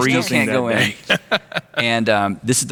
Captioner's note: laughing